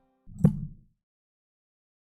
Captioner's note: maintenance worker hitting hammer again